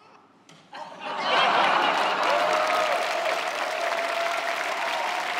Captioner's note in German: Applaus, Lachen, Jubel